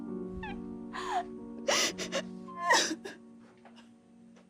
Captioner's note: soft piano music; crying